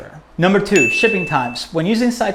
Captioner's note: bell